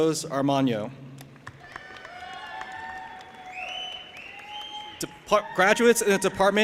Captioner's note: audience applauding and cheering